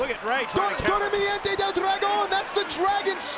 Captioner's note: speaks in Spanish